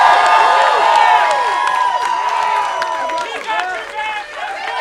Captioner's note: crowd cheering